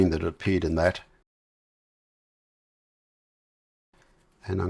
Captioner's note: silence